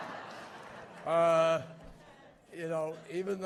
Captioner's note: laughter